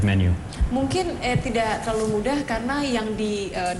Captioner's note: non-english speech